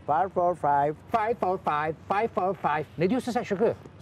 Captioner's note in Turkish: Sarp İngilizce konuşma